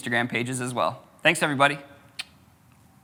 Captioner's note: tongue clicks